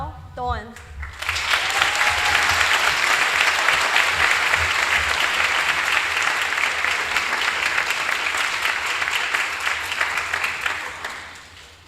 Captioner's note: applause